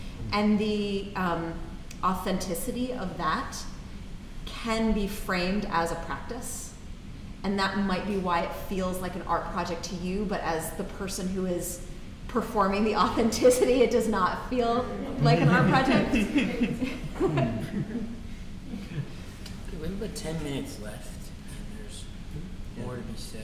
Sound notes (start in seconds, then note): 14.8 laughing